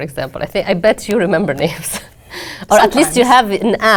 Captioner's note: laugh